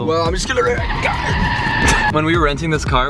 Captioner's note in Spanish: rechinar de llantas